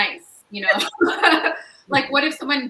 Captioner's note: all laugh